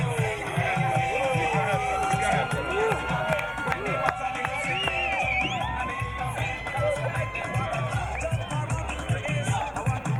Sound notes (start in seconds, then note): 3.9 crowd cheering